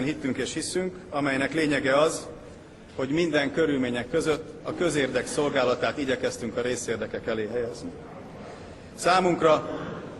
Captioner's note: whispers